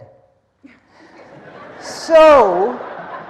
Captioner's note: audience laughing